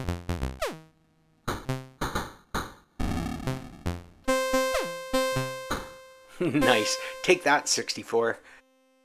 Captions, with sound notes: [laughs] Nice! Take that, 64!